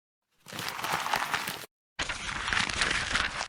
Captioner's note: paper unfolding noise